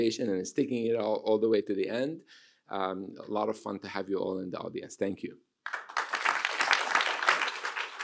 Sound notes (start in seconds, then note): 5.6 applause